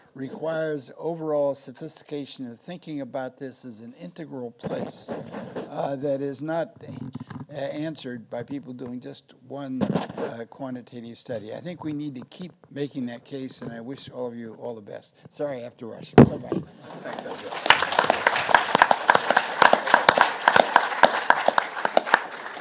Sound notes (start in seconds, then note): 16.7 audience applauding